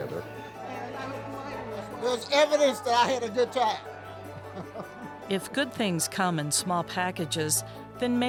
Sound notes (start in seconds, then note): 4.2 laughs